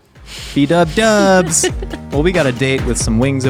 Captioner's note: laughing